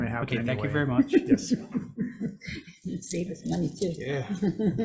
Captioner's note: group chuckling